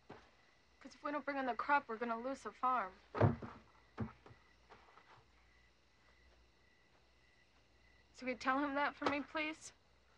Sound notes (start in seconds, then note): none